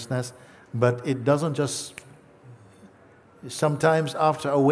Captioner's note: schnippst die Finger